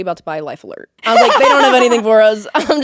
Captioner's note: Courtney laughing